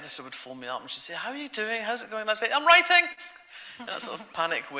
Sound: audience laughter

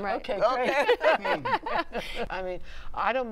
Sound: laughter

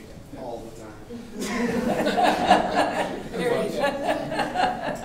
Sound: audience laughing

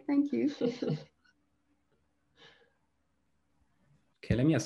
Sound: laughs

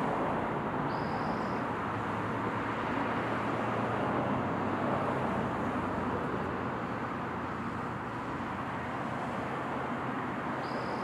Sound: cars driving along street in the background; car engines getting louder in waves as they go by. occasional birds trilling

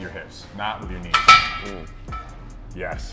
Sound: bar rattling

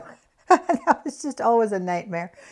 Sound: laughs

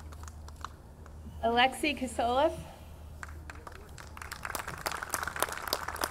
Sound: audience clapping

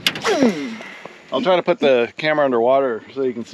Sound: rod whipping; reel spinning

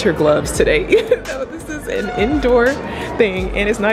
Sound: laughs

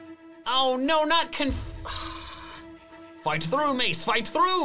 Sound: sighs

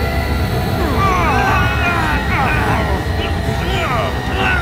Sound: sound waves; grunts

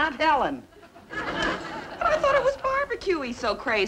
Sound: audience laughing

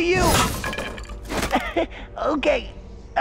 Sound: chuckles

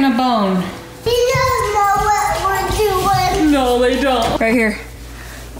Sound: mumbles

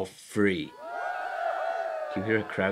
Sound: crowd cheering

